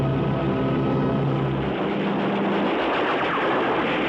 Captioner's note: gunfire